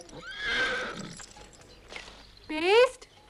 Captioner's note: horse neighs